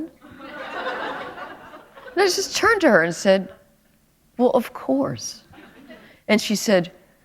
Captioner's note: laughter